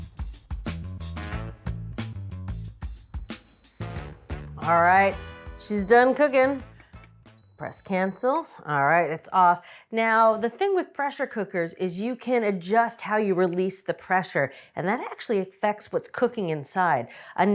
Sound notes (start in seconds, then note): 0.0 funky music; 2.8 instant pot beeping